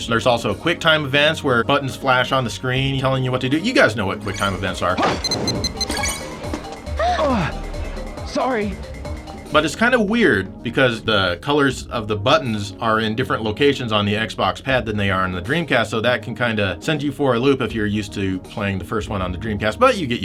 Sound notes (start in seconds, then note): 6.5 game audio